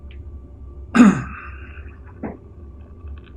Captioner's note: coughs